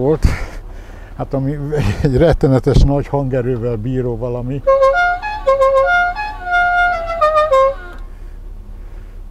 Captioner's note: cheerful honking sounds